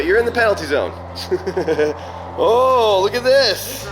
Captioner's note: laughs